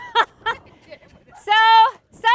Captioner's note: laughing